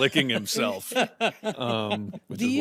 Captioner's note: laughs